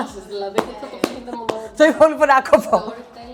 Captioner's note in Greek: γέλια, ομιλίες που δεν ακούγονται καθαρά